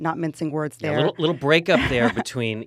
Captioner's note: chuckles